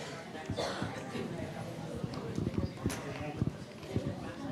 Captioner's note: people chattering